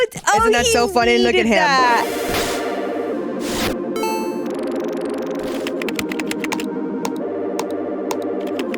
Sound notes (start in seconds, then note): 1.9 graphics whooshing; 2.2 upbeat electronic music